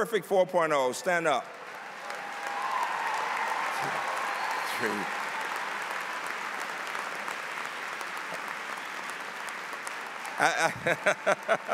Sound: applause

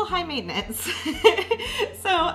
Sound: laughs

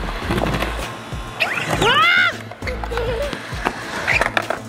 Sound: whooping

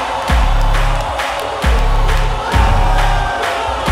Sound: band playing; hands clapping; dramatic music; players cheering

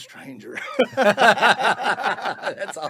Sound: all laughing heartily

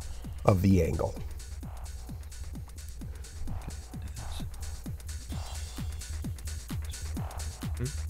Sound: wispering

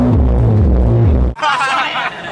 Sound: laughter

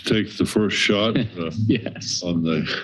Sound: chuckles

